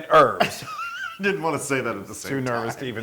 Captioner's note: laugh